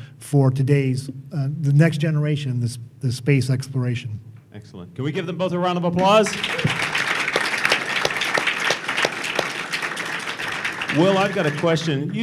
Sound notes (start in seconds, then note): 6.0 applause